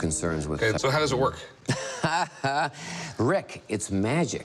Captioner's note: laughs